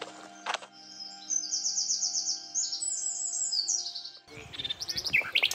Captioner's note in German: Vögel zwitschern